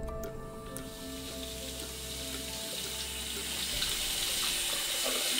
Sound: water splashing

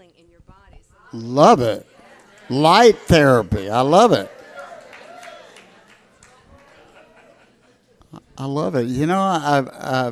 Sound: crowd applauds

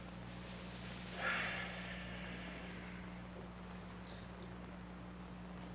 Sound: Roy's Father sighing heavily

